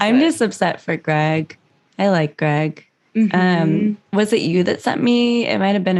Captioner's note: mhmm